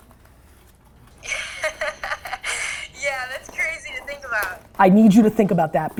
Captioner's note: laughs